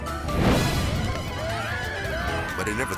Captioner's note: flames whipping; dramatic beat; man screaming; whimsical music